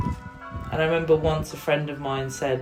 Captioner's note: distant bells